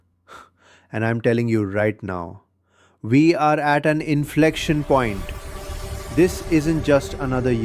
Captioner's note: exhales sharply; shouting